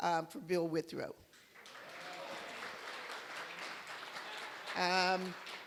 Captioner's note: applause